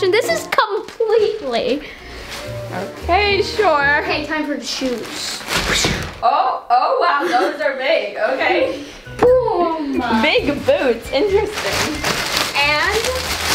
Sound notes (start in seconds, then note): 4.7 wooshing sound